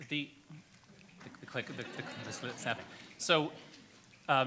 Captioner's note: audience laughs